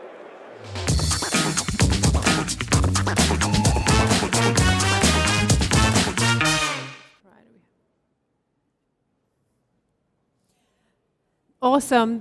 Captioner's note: applause